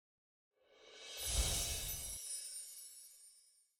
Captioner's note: bright chiming